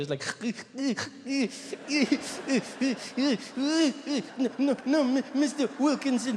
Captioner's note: Trevor mimics child crying